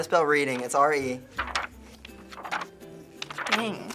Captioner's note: pages flip loudly